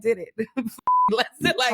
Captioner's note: beep